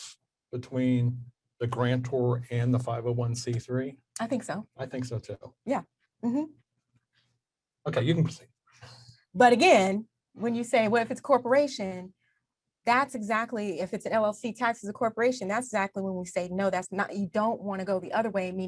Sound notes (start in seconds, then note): none